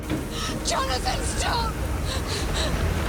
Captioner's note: thunder